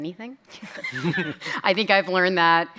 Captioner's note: chuckles